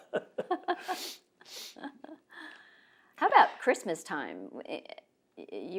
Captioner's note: laughter